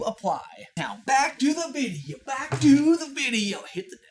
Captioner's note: thunk